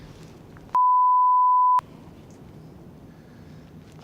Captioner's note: beep